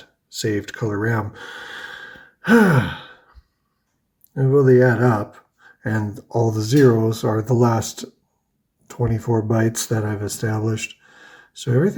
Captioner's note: sighs